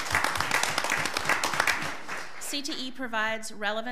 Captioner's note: applauding